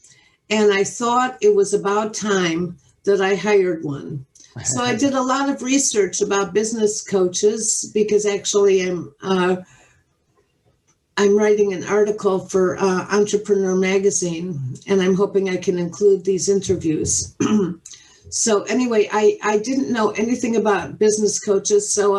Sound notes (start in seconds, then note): 17.4 clears throat